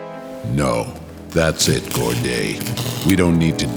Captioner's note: sparks crackle